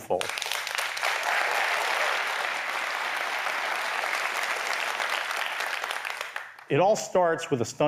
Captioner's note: applause